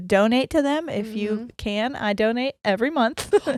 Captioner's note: laughs